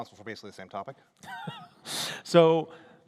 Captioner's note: laughter